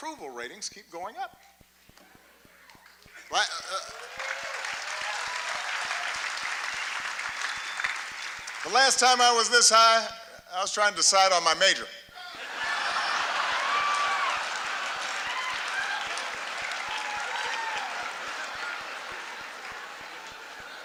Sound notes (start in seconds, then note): 3.8 laughter; 12.2 laughter, applause